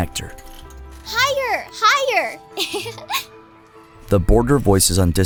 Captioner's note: giggles